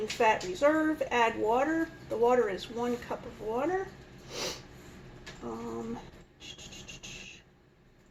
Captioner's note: sniffs